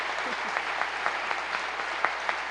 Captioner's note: applause